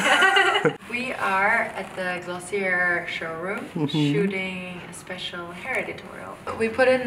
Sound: laughs

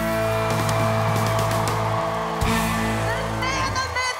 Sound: crowd applauds

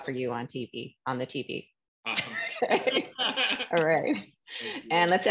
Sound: laughter

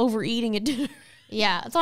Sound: laughs

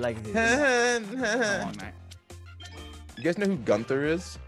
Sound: laugh

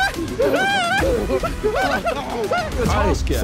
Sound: screaming

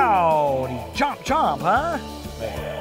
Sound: toy dinosaur growling

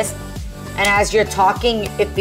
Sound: hands clapping

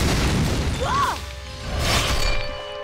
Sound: screaming

